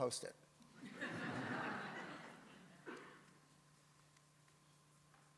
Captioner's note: audience laughs